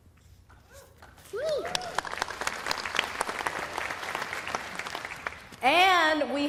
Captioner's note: cheers and applause